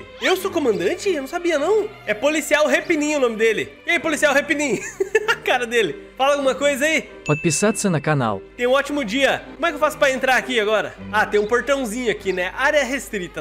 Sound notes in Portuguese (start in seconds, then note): 4.6 risos